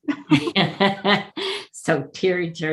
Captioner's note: laughing